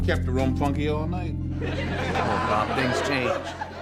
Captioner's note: audience laughs